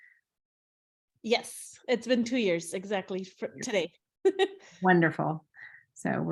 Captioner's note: chuckles